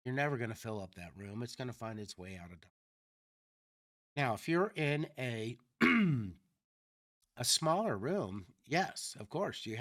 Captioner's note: clears throat